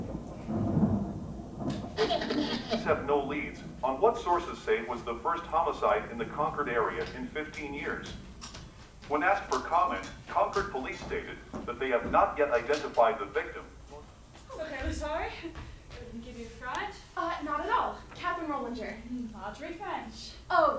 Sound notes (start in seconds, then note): 2.0 radio static